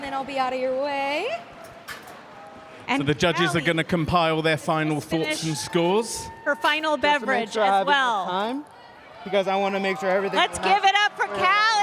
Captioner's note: cheers and applause